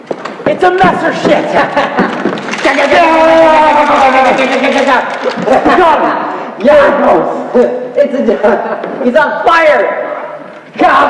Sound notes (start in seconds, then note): 1.2 laughs; 2.8 vocalised gun sounds